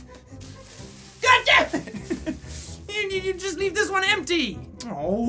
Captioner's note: laughs